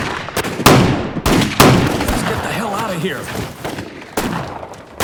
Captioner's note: gunfire